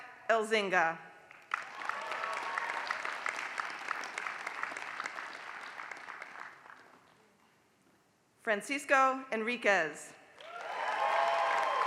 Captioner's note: applause; applause